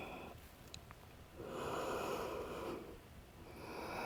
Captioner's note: deep breathing sounds